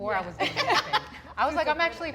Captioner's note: laughs